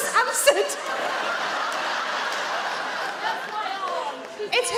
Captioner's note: audience laugh